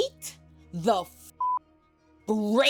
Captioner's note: beep